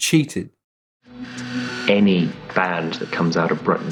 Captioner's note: soundbite of archived recording